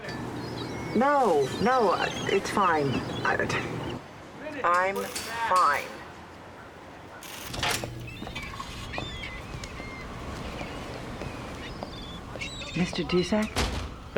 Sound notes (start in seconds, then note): 8.0 sea gulls cry